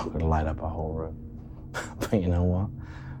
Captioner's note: laughing